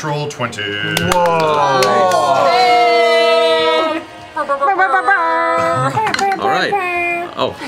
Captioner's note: cheering, air horn sounds